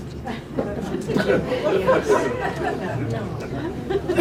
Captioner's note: laughter